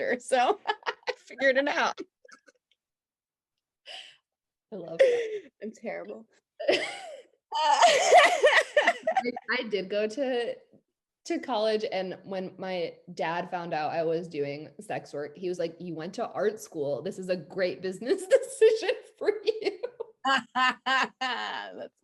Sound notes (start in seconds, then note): 2.6 laughs; 7.6 both laughing; 19.4 both laughing